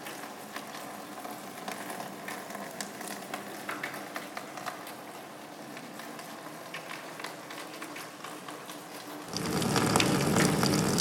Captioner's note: sound of water